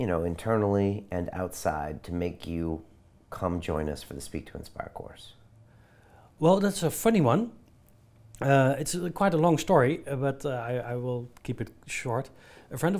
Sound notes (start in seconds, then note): none